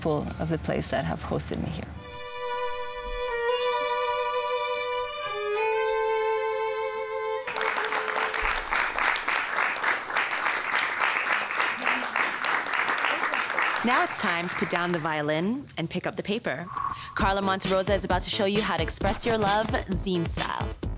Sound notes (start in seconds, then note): 2.0 violin music; 9.1 applause